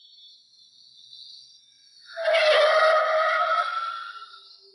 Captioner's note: tires screeching